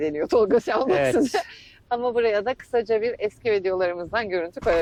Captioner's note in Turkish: kahkaha